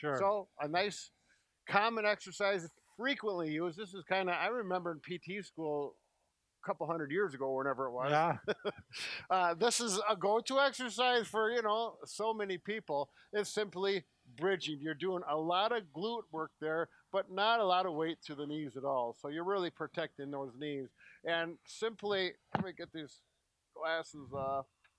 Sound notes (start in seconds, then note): 8.1 laughs